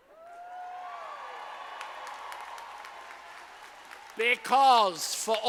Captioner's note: audience applauding